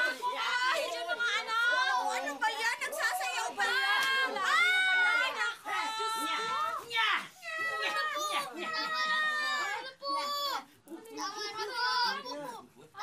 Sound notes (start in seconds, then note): 7.8 boys in unison